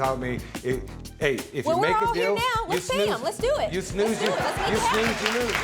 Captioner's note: audience applauding